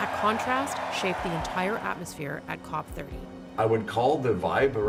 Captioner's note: cheers and Applause